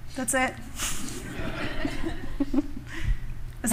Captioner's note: laughter